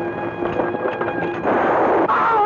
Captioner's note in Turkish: Tüfek sesi